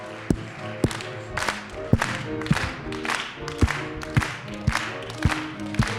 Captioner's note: performers clapping rhythmically